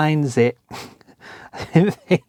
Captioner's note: laughs